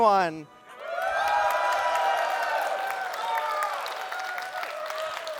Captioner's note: cheering